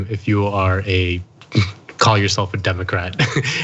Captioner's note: laugh